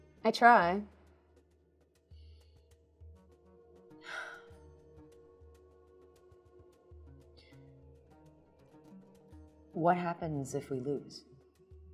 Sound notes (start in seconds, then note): 4.0 sighs